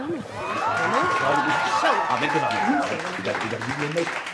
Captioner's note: audience cheers